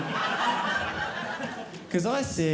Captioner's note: audience laughing